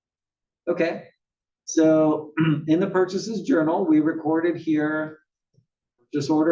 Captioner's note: cough